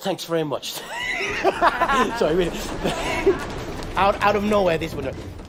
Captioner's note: laughing